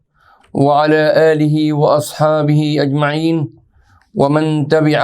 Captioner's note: arabic